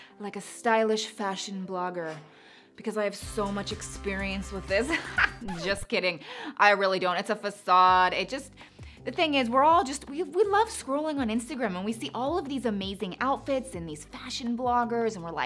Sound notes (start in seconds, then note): 4.8 laughing